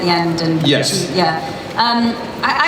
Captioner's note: voiceover